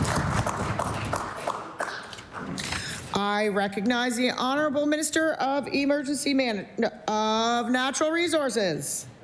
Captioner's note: applause